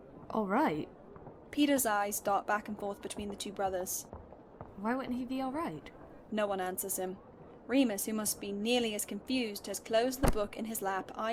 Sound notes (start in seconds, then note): none